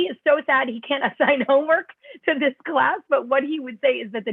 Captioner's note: laughter